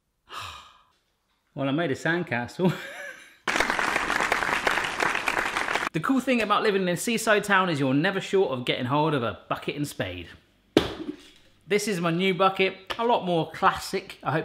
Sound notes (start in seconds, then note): 0.2 sigh; 3.4 clapping